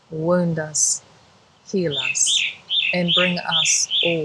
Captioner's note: birds chirping loudly